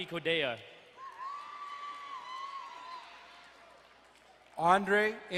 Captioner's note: crowd cheering and applauding